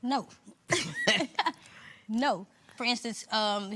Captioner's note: laughs